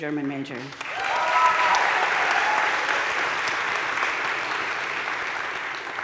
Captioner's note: audience cheering and applauding